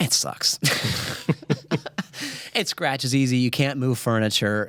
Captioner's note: chuckles